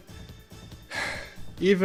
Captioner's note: sigh